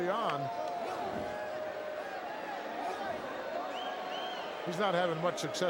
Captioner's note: crowd murmuring